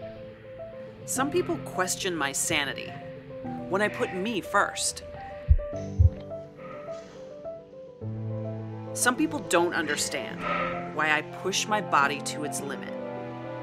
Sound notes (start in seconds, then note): 5.0 heavy breathing; 5.3 heartbeats continue